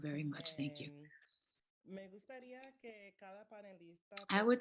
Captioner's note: speaking spanish